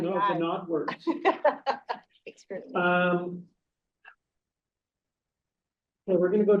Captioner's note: board member laughs